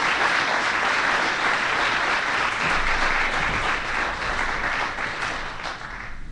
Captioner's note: applause